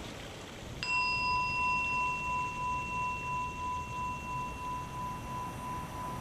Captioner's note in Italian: suono di campana